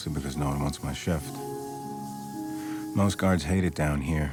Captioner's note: can spraying